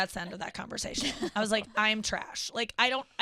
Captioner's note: laughing